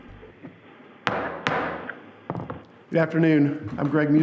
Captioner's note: gavel banging